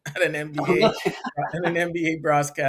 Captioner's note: laughing